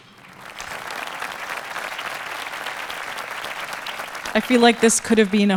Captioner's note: audience applauding